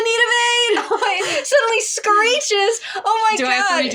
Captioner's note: laughing